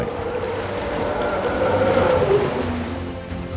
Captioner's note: trumpeting